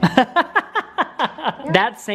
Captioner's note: laughing